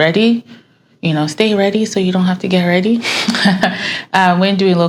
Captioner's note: laughs